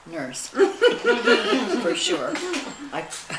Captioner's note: laughing